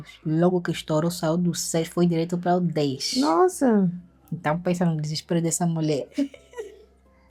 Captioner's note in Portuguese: risadas